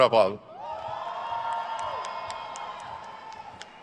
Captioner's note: crowd cheers